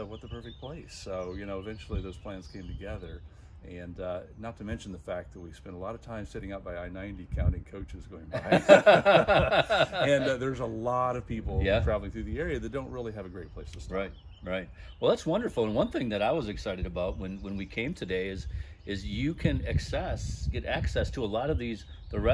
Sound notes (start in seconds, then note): 8.3 both laugh